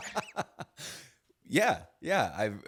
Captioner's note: both laugh